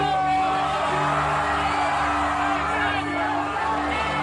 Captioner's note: crowd cheering